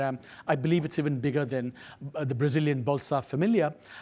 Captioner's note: speaks foreign language